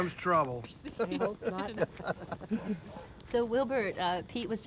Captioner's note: group chuckling